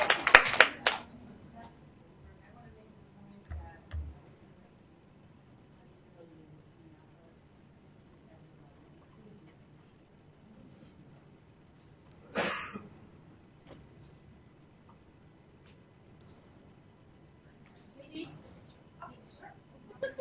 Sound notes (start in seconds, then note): 0.0 audience applauds; 18.0 voiceover